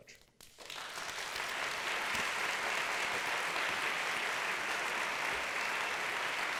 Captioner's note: applause